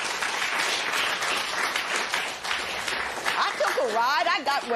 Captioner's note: applause